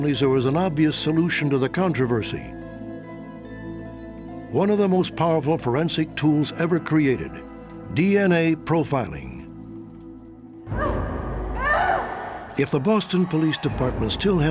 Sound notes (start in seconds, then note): 10.7 crying